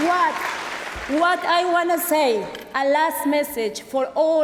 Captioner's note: applause